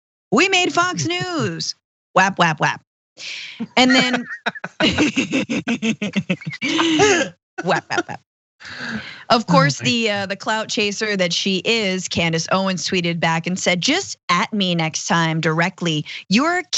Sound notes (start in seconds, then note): 3.6 laugh